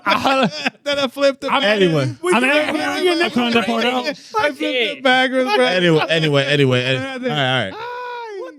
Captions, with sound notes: (Laughing) That I flipped it. I'm anywhere. (Speaking In Foreign Language) Anyway, anyway, anyway. All right, all right.